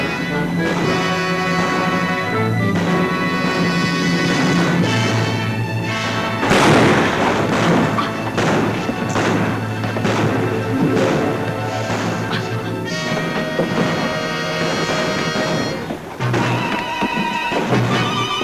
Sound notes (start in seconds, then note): 6.6 gun bangs; 8.0 guns bang; 15.5 exciting music